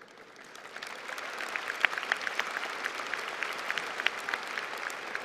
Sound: applause

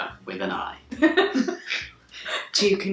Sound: laughing

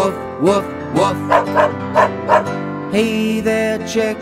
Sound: dog barking

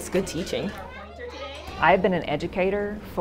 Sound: students and teacher conversing

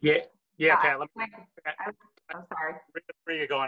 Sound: audio distorts

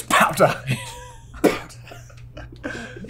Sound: laughs

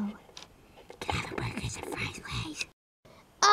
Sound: whispers

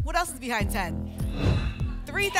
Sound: whoosh

